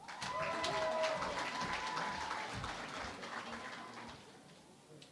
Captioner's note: cheering and Applause